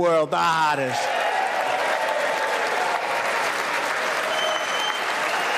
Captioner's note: applause